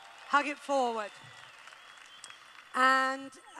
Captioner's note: applause